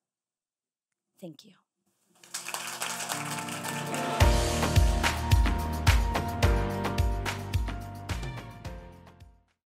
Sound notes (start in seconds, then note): 2.2 audience applauds; 5.3 upbeat music